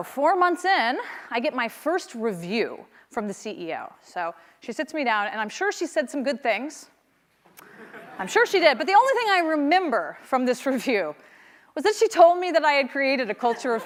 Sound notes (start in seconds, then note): 7.6 laughter